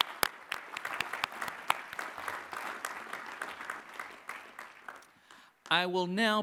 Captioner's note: applause